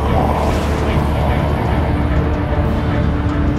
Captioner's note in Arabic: طنين الآلة بعنف; محركات قعقعة